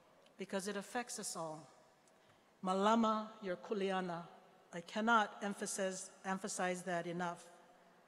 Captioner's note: speaking hawaiian